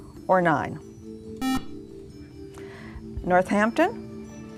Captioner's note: beeping